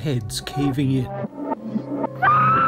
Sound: scream

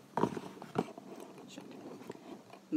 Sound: whispers indistinctly

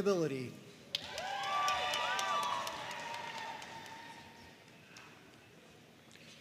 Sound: audience cheering and applauding

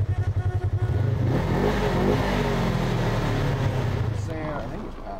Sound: engines revving

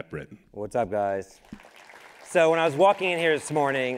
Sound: crowd applauding

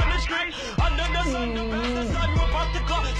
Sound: moaning softly

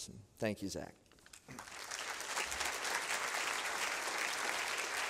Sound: applause

